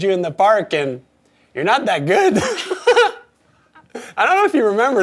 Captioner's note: laughs